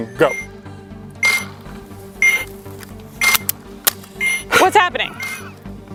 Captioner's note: blaster beeping